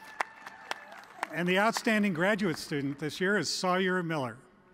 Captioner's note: applause